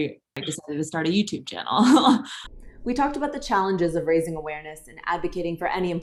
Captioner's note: laughs